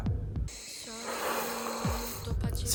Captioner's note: sigh